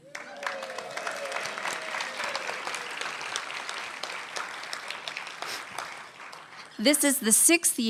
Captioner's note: applause